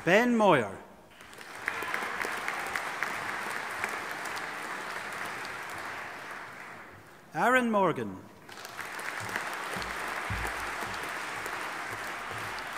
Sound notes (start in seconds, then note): 1.2 audience applauding; 8.4 audience applauding